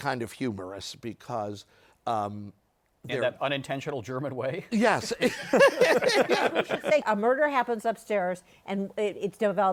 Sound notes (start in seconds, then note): 5.0 laughter